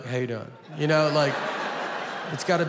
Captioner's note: audience laughing